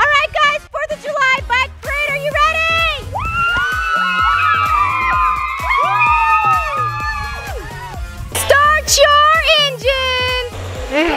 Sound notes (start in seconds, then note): 2.9 everybody cheers; 10.9 kids making engine roaring noises